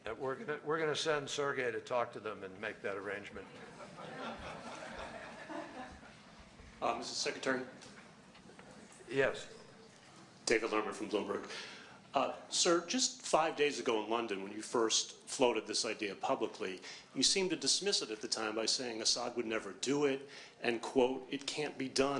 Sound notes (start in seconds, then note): 3.4 laughter